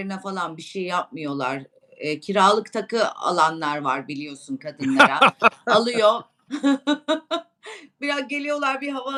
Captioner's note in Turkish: kahkaha